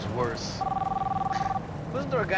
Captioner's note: phone ringing